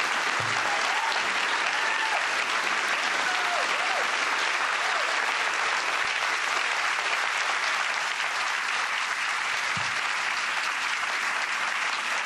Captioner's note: applause